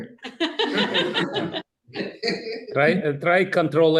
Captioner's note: audience laughing